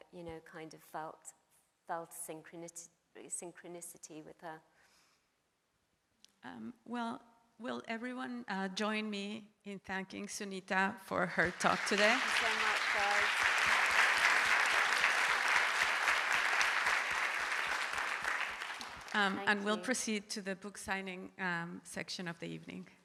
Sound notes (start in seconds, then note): 15.7 audience applauds